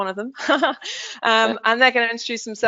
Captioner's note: laughs